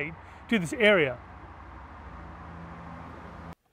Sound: background road noise

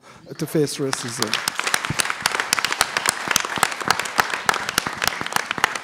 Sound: applause

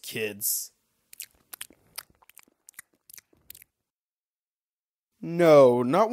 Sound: glue eating sounds

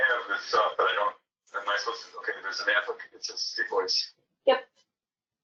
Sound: static interference

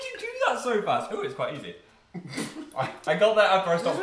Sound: bursts out laughing

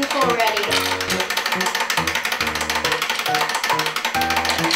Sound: timer ticking

